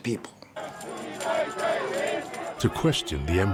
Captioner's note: protestors chanting